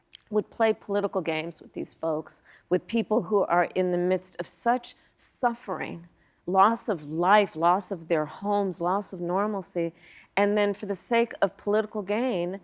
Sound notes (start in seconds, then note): none